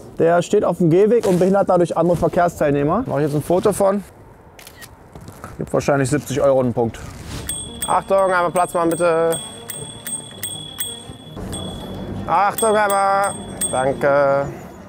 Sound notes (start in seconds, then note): 7.4 bicycle bell